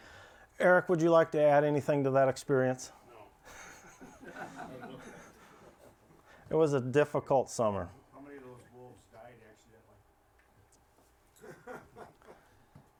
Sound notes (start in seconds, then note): 3.5 laughter; 11.4 laughs